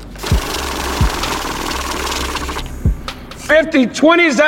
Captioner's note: money counting